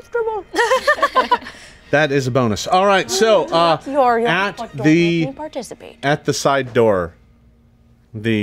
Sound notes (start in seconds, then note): 0.6 everyone laughing